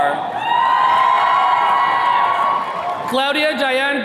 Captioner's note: attendees cheering